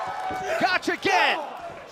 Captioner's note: cheers & applause